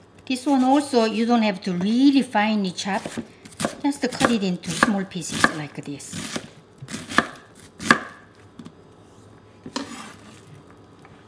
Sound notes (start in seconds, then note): 6.8 knife chopping